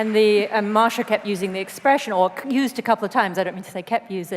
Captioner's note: applause